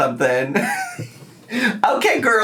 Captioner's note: laughs